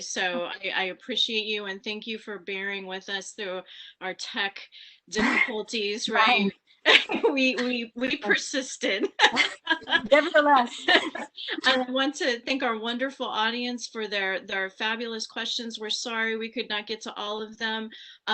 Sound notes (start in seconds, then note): 6.9 chuckles; 9.0 laughs